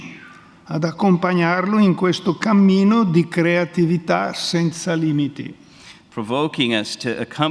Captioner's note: speaks in Italian